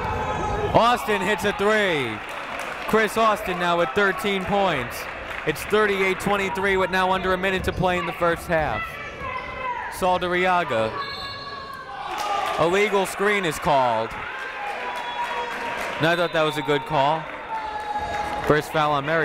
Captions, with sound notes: Austin hits a three! Chris Austin now with 13 points. It's 38-23 with now under a minute to play in the first half. Saldarriaga. (whistle blowing) Illegal screen is called. And I thought that was a good call.